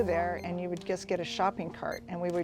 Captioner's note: scanner beeping